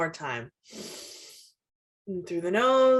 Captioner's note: inhales deeply